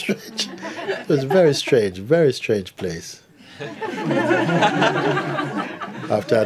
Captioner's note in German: Lachen; Lachen